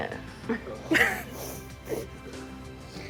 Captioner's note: crying